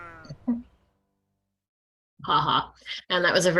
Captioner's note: sheep mewing